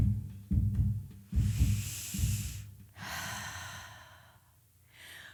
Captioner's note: deep sigh